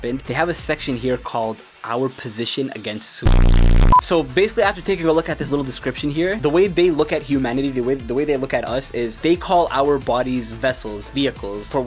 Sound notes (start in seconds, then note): 3.3 beep